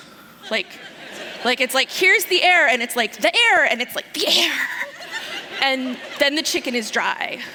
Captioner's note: laughter